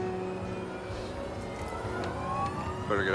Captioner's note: siren